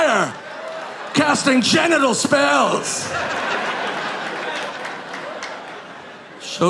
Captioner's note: audience laughing